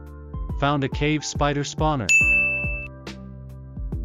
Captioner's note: dinggggg